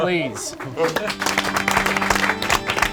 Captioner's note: group claps; organ music